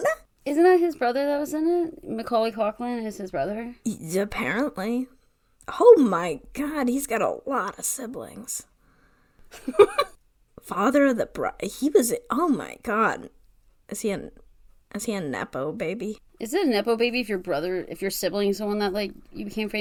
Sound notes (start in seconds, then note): 9.5 laughs